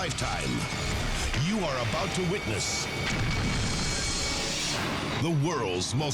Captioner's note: explosion booms